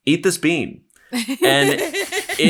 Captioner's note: everyone laughing